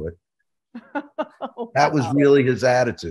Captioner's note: laughing